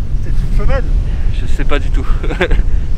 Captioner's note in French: Rires